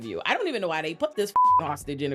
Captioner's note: beep